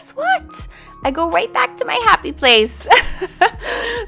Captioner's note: laughs